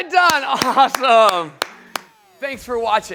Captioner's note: applause